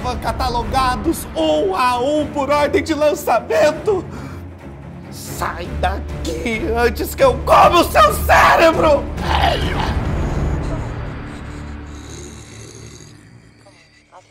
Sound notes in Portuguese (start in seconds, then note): 9.1 rosnados